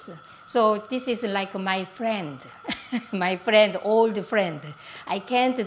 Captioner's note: laughs